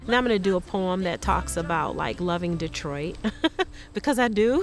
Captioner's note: laughs